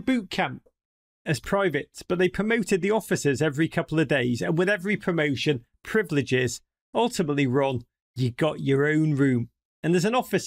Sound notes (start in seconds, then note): none